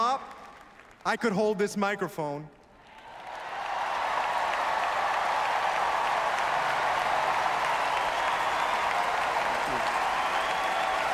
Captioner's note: applause